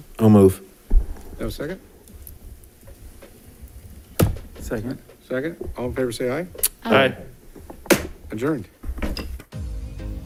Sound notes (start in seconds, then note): 7.0 gavel thuds; 9.5 lively music